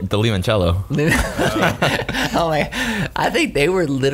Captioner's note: laughs